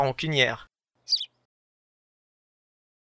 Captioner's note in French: chant d’oiseau